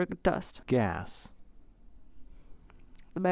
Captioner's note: inquisitively